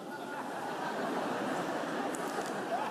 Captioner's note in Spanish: Risas